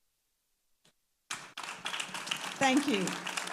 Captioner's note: audience applauding